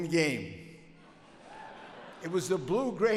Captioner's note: audience laughs